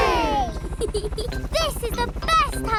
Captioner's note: peppa giggles